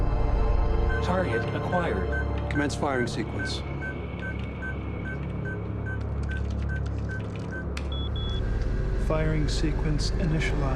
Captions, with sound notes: [computer voice] Target acquired. Commence firing sequence. Firing sequence initialized.